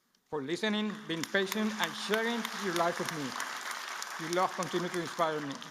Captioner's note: applause